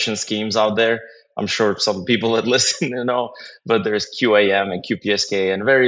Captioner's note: laugh